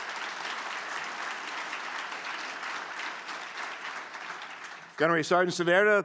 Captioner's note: applause